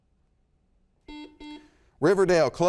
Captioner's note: buzzer beeps